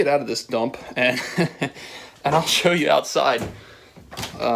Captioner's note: laughing